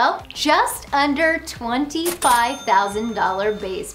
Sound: cash register dings

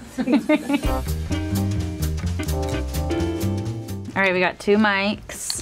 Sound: person laughing

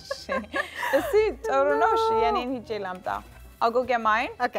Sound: speaking Amharic

